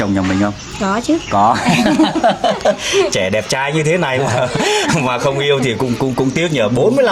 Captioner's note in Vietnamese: tiếng cười